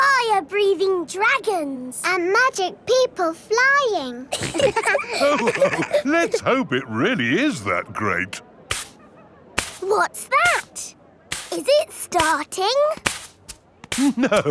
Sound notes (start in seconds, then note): 4.3 all laughing; 9.6 brushing